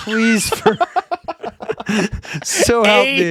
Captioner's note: laughing